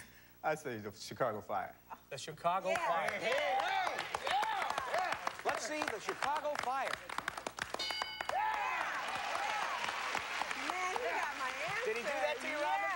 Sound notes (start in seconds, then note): 8.6 cheers and applause